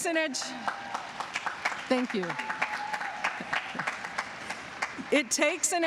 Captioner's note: applause